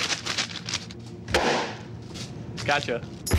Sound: bag pops

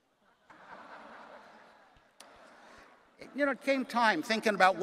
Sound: audience laughing

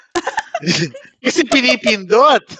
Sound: laughs

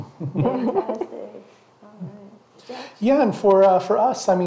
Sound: all chuckle

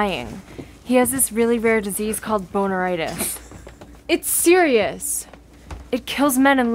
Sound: laughter in background

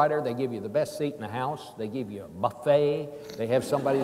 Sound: laughing

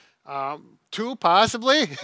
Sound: chuckles

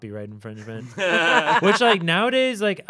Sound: laughing

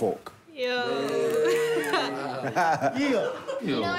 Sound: cheering

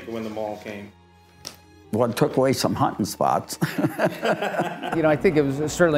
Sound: laughs

